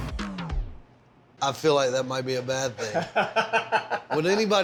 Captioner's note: laughs